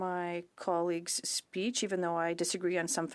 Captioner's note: speaking French